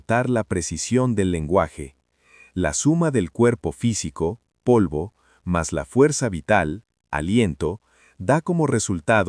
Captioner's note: breath